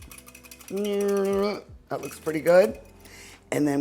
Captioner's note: whisk clanking